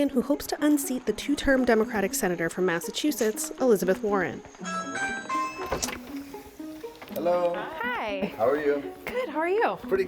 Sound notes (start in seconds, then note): 4.6 doorbell chimes